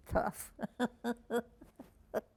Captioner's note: laughing